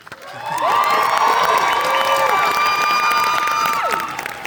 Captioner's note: applause